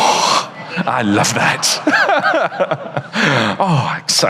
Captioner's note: audience laughs; laughs